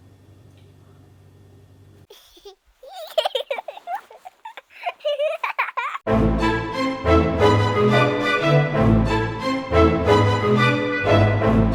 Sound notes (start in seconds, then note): 2.1 child laughing; 6.0 dramatic music